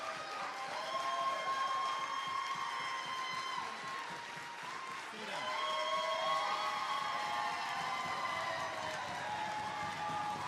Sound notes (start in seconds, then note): 0.0 applause